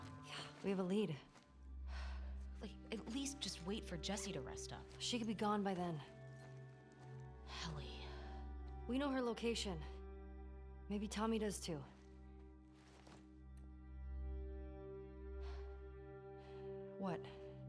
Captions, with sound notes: Yeah, we have a lead. (sigh) Wait, at least just wait for Jesse to rest up. She could be gone by then. Ellie... We know her location! Maybe Tommy does too. What?